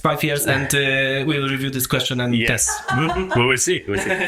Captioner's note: laughs